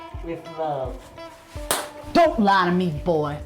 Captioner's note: smack